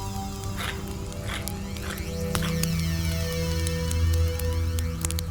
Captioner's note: stone scraping continues; quiet music continues